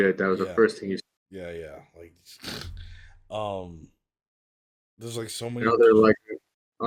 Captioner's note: snorts